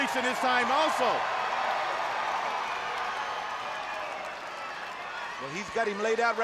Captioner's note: applause